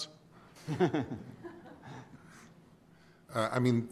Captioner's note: laughs